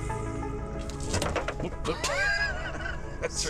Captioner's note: metal thudding; laughs